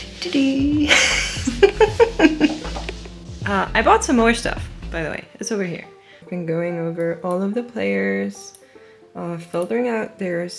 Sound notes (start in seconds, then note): 0.8 giggles; 4.0 laughs